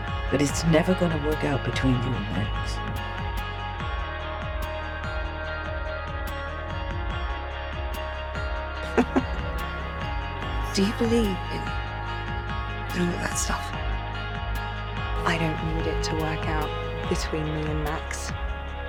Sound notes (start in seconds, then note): 8.8 Helen laughs; 15.5 voiceover